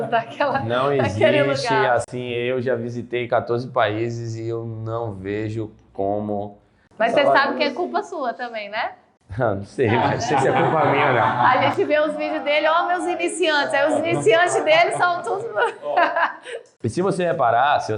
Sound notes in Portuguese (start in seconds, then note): 9.9 risos; 15.8 risos